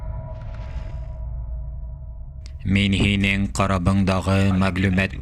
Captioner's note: dramatic music; retrains creaking